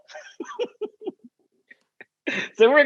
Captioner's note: laugh